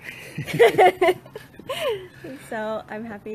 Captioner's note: laughs